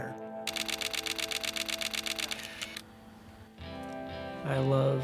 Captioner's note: camera shutter clicking